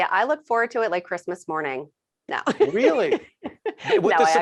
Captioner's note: laughing